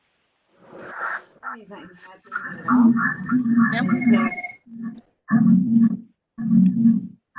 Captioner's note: microphone echoing